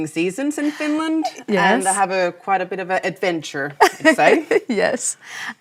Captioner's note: laughs